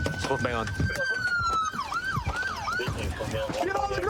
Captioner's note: sirens wailing